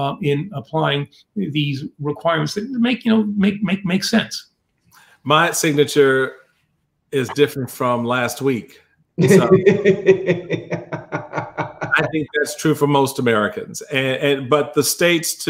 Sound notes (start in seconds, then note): 9.2 laughs